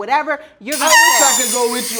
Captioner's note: loud whistle